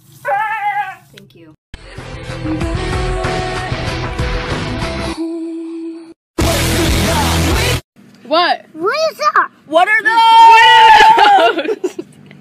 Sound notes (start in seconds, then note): 0.2 Shakira voice; 8.7 child voice